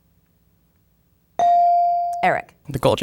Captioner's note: bell dinging